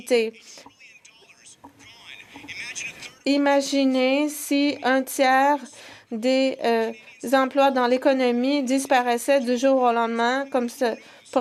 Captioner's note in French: voix de l'interprète